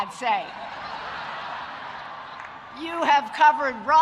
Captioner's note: audience laughing